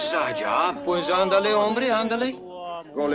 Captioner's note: Carlos speaks Spanish